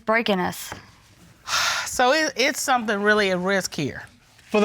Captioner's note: sighs